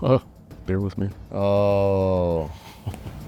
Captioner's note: groans; chuckles in victory